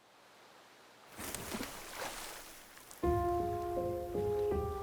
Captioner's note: water splashes; soft piano music